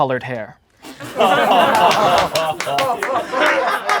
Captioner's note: laughing